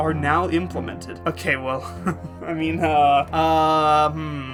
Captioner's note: nervous laughter